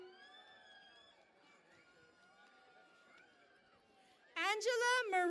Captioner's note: cheering and Applause